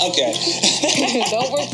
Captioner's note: both laugh